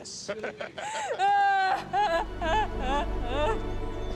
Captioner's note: chuckling; sobbing; curious music plays